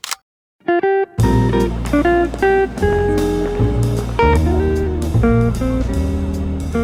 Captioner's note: mellow music; crowd chattering